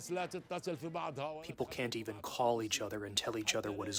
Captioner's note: through translator